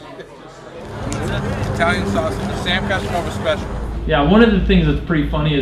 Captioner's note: voiceover